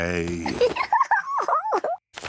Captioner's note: giggles